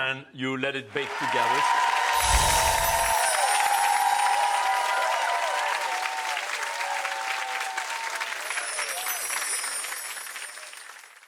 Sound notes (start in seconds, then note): 1.6 audience applauds and cheers; 2.1 sparkly music; 2.4 crowd cheering; 8.3 sparkly music